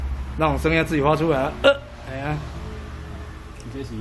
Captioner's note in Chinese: 招牌叫聲